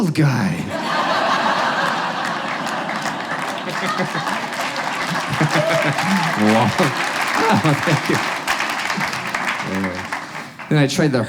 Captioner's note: audience laughs and claps